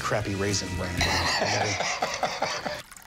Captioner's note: laughs